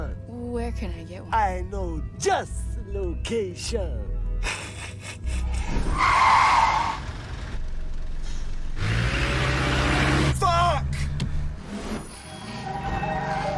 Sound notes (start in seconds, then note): 4.4 snickers